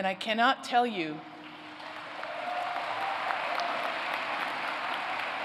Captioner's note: applause